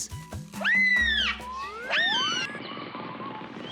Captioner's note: gentle scream